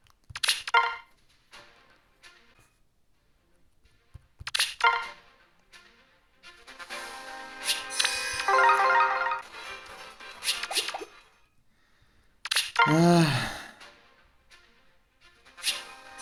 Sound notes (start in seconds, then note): 12.8 heavy Sigh